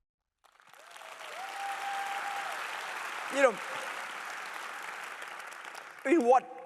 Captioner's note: applause